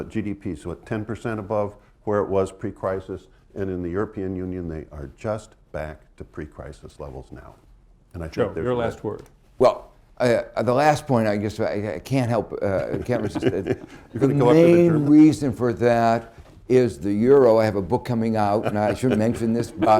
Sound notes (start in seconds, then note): 12.7 laughter